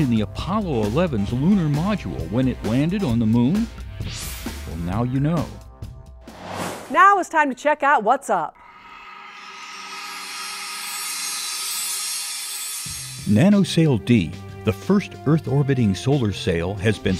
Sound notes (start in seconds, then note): 9.3 sound Effects